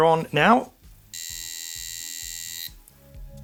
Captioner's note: buzzing